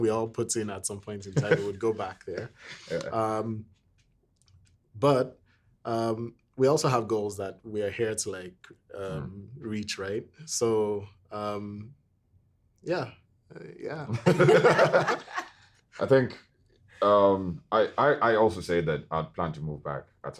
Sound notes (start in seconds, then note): 14.2 everyone laughing